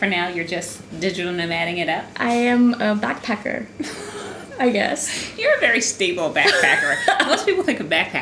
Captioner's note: laugh